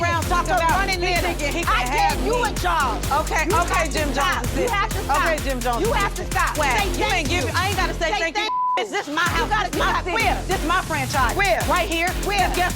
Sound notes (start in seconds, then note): 8.4 beep